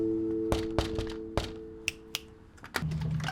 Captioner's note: knocks